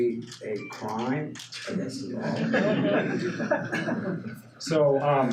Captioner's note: audience laughs